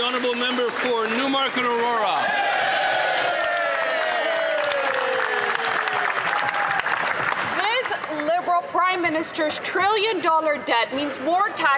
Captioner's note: some Applause